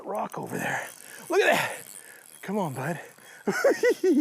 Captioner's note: laughs